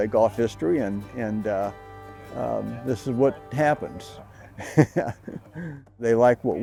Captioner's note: laughs